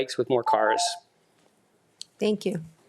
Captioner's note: machine beeps